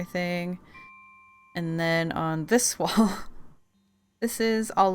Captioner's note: laughs